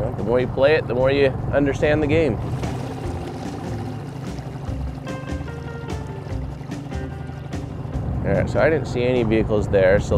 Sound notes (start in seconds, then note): 3.8 boat engine rumbling; 3.8 funky surf music